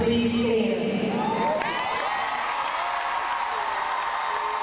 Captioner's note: crowd cheering